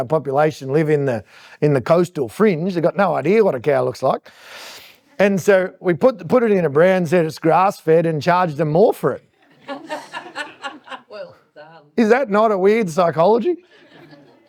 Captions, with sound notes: population live in the coastal fringe. They got no idea what a cow looks like. And so we put it in a brand, said it's grass-fed, and charged them more for it. (audience laughing) Is that not a weird psychology?